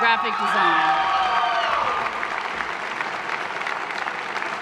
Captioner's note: applause